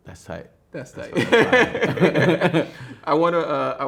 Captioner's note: laughs